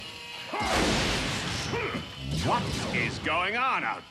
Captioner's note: blaster fire and yelling